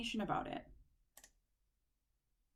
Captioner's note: click